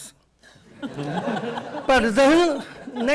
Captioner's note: audience laughter